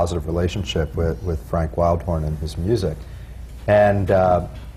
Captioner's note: none